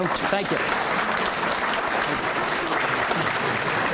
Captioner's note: applause